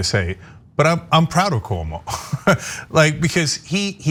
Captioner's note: laugh